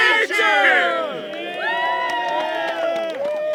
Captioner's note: cheering